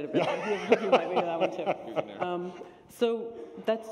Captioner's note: laughter